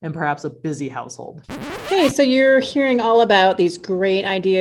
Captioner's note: record scratch sound effect